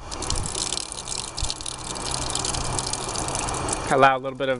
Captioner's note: water gurgling